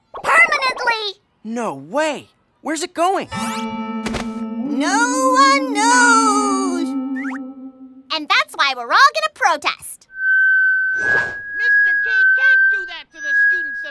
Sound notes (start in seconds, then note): 4.3 spooky voice; 10.1 loud squeal